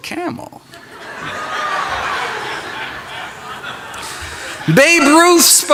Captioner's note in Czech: Smích